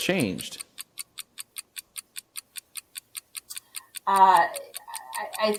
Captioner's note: clock ticking